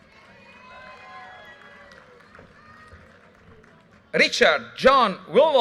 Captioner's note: audience cheers and applause